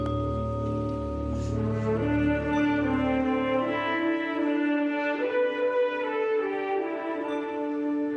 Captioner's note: bell tolling